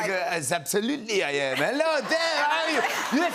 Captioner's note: French accent